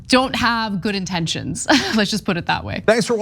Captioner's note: laugh